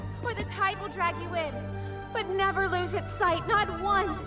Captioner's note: none